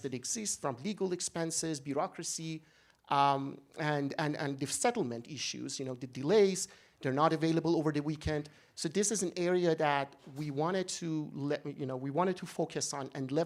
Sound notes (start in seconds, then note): none